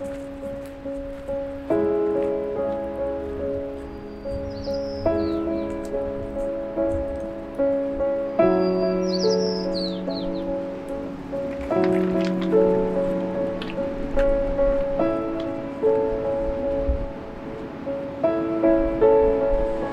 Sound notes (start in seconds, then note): 0.0 footsteps crunching; 3.8 bird singing; 8.0 bird singing; 10.7 rocks scrambling; 16.4 wind blowing